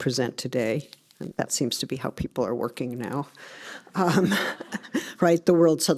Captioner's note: laughs